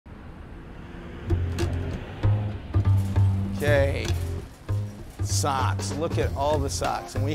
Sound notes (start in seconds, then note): 0.1 car engine rumbling; 0.8 gentle music